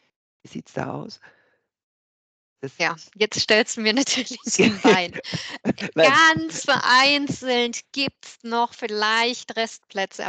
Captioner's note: laugh